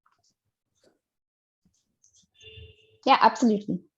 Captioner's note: car beeping